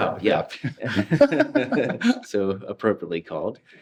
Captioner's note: all laughing